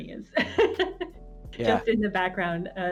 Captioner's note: laughs softly